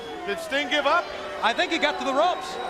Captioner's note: crowd chatter